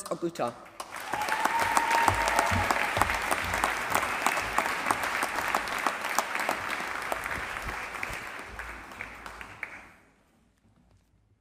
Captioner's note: applause